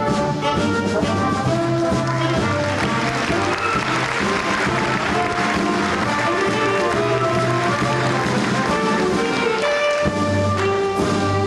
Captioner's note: applause